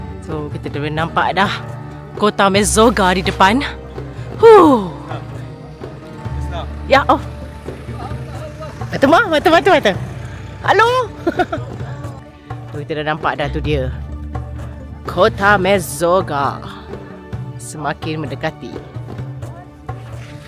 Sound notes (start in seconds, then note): 6.4 speaking German; 9.0 speaking German; 10.8 laugh